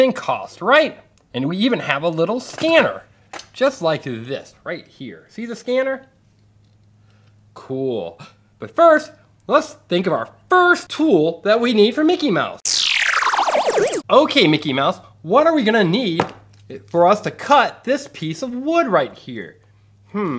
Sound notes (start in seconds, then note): 12.6 electronic tones